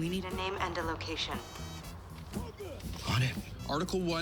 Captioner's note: none